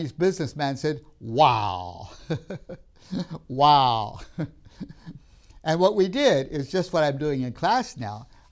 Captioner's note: laughs